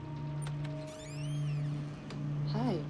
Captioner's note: door creaking